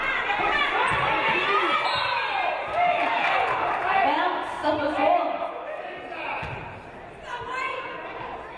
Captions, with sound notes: (referee blows whistle) (audience applauding) Suffolk ball.